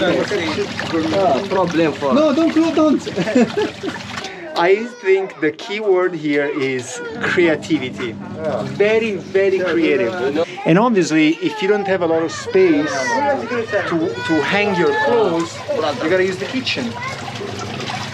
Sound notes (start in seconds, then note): 3.0 laughs